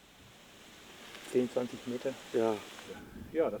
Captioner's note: speaking German